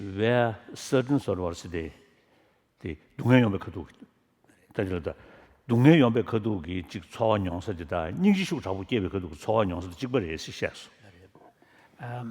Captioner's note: foreign Language